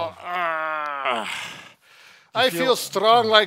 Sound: groans

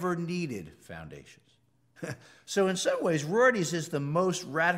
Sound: laugh

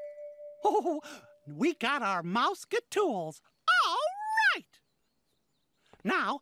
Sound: chuckling

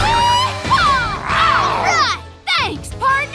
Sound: roars

